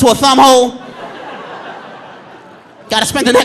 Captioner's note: audience laughing